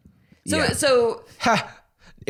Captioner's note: laughs